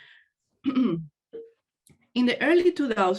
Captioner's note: clears throat